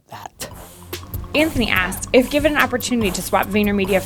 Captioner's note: voiceover